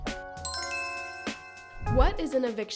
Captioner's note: gentle music; bells chiming